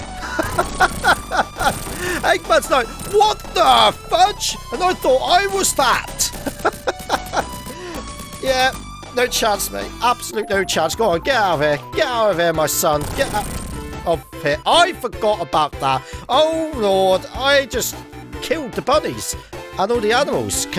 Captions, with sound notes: [laughs] Eggman's like, "What the fudge?! "And I thought I was fat!" [chuckles] Yeah, no chance, mate. Absolutely no chance. Go on, get out of here! Get out of here, my son! Get out-- I forgot about that! Oh, Lord. I just killed the bunnies and all the animals.